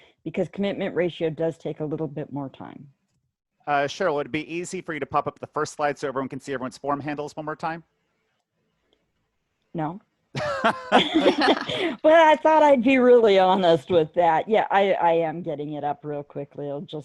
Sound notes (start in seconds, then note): 10.4 laughing